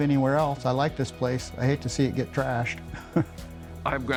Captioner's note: chuckle